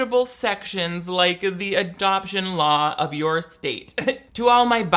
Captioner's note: laughing